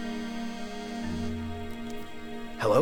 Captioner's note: phone buzzing